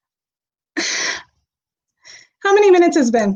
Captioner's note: exhales sharply